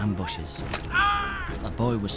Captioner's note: screams